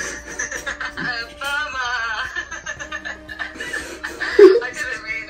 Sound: laughs

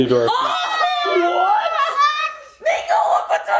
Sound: everyone exclaims

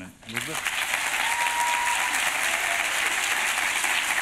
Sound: applause

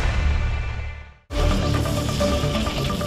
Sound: whirring sound

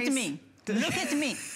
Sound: laughter

